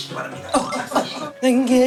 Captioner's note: sound check